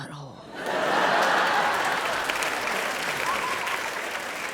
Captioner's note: audience laughs